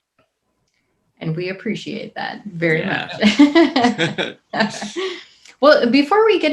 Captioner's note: laughs